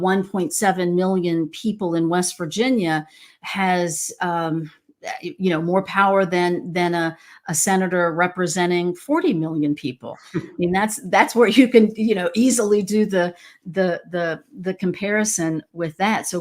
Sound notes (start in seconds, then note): 10.3 laughs